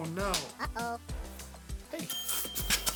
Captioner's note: high pitched voice